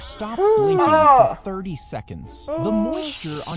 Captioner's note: gasps